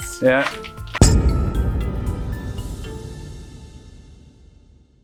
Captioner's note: gong chimes